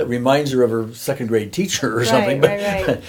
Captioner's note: chuckling